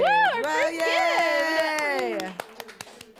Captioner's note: applause and laughter